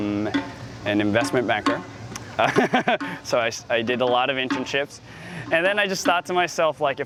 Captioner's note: chuckles